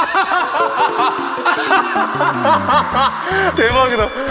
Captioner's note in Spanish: Ja ja ja ja ja